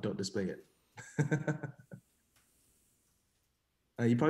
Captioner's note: laughs